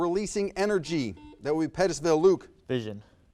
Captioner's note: buzzer buzzes